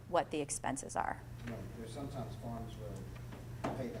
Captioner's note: voiceover